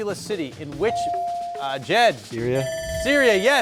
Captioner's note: timer ringing